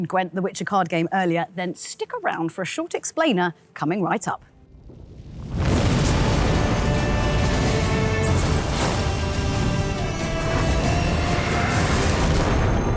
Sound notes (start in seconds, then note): 4.6 epic music playing; 4.8 flames roaring